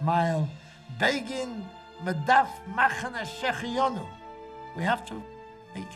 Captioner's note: speaking foreign language